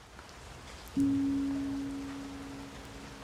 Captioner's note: raining, music